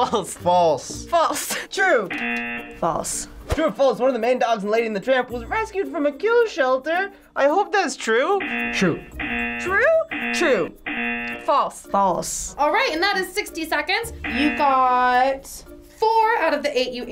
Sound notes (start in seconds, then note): 2.1 buzzer rings; 8.4 buzzer rings; 14.1 buzzer rings